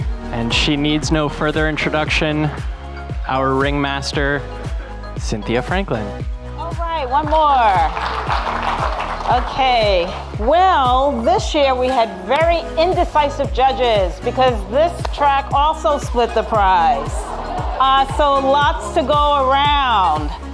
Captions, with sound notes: And she needs no further introduction our ring master, Cynthia Franklin. - All right one more. (audience clapping) Well this year we had very indecisive judges because this track also split the prize. So lots to go around.